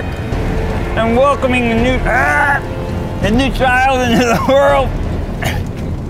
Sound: yelling

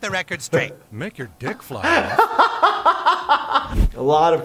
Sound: laughter

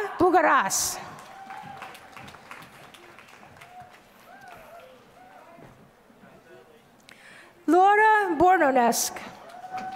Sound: applause; applause

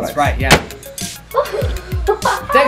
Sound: laughs victoriously

